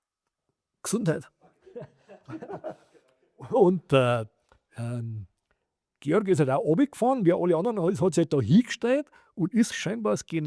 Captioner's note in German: gelächter